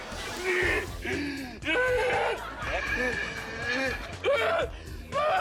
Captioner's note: shrieking